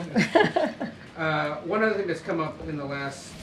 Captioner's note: laughs